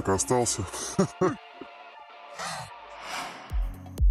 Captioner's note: evil laughter, as always